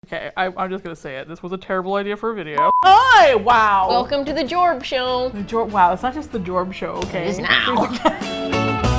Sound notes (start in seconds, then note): 3.5 nasally; 7.4 laughs